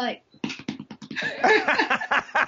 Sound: pounding his chest; host laughing

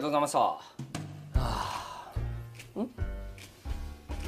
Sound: sigh

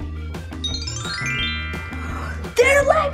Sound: magical sound

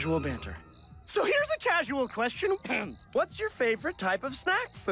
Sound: clears throat

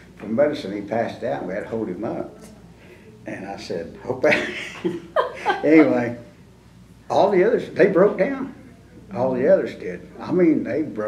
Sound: laughter

